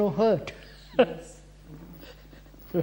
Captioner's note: laughs